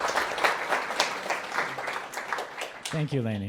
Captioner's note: applause